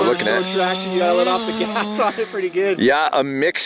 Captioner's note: laughs